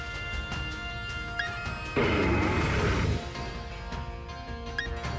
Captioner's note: thunderstorm